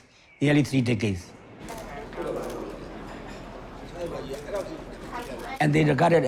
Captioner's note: speaking in Burmese